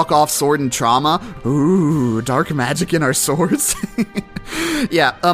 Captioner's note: mocking